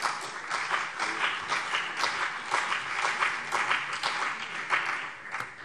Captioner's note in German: Beifall BÜNDNIS 90/DIE GRÜNEN und CDU